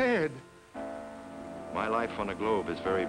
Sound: bell tolling

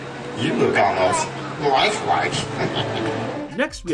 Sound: laughs

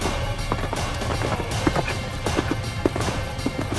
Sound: lion roars

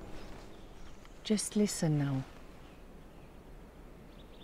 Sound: birds concert

